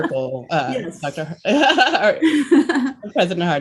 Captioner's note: laughs